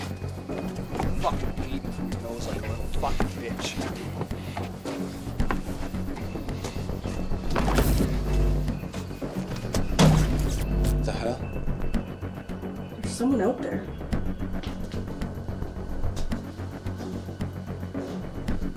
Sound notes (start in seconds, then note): 4.1 footsteps thumping; 4.1 suspenseful music continues; 7.7 electricity whooshing; 14.9 suspenseful music continues